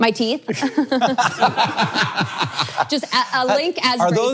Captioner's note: all laughing